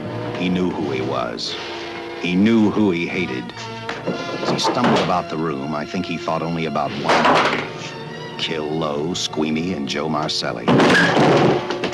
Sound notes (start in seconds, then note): 3.7 jimmying door; 7.4 doorknob clatters; 10.6 door crashes out